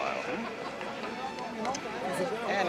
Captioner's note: indistinct chatter